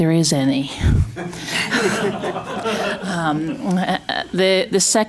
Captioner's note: laughter